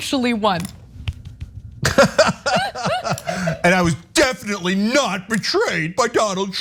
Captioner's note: laugh